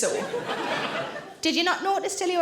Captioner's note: audience laughing